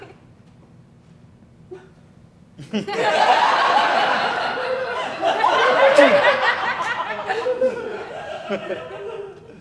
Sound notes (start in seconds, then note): 5.5 sighs